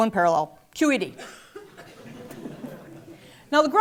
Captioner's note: laugh